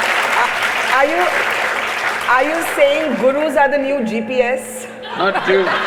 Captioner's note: laughter